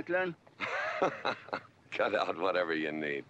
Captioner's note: GW laughing